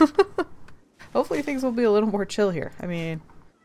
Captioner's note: laughs